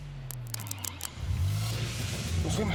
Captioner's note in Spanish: sonido del motor